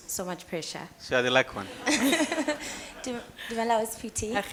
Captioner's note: laughing